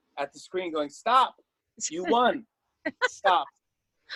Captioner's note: laughter